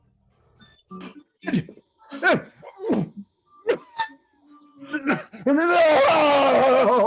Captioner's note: groaning and screaming